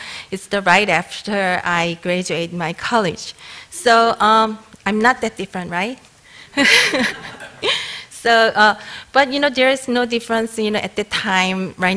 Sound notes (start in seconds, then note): 6.5 laughter